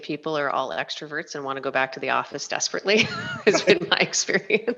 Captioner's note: laughs